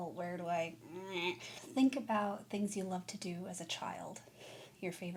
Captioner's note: frustrated noise